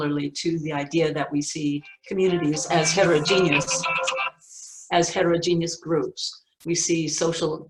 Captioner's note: phone ringing